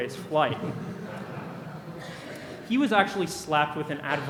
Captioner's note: laughter